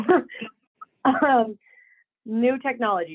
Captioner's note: chuckles; coughing